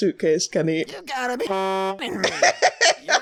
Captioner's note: laughing; honk